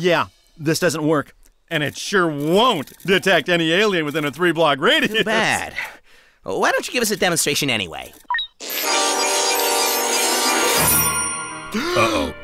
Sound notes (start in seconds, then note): 8.2 electronic beeps; 10.8 gasps